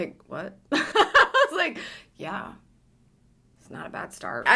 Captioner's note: laughs